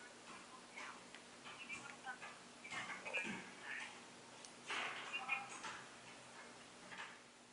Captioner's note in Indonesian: suara dari earphone QKZ S3 saat call